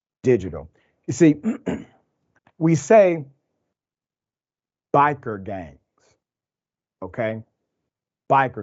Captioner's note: cough